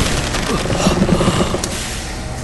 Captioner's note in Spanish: maquina operando; Cris jadea